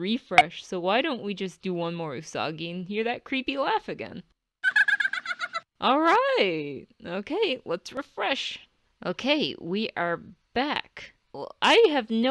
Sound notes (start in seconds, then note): 4.7 Serena laughs